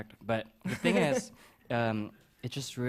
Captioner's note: chuckles